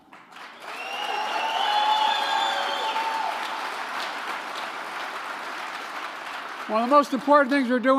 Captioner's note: applause